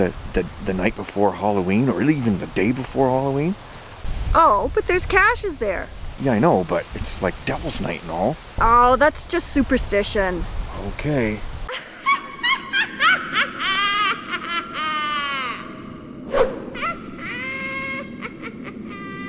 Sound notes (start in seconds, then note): 11.7 witch cackles